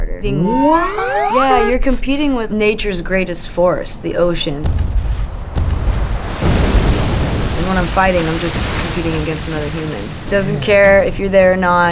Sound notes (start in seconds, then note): 6.3 ocean waves crashing